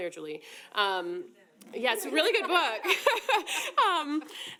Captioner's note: laughs